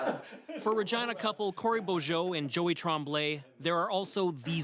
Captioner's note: laughter